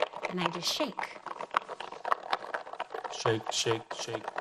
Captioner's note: foil balls rattling